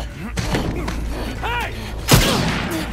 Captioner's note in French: bang